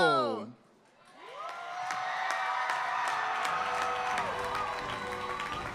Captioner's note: applause